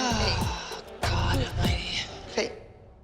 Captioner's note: sighing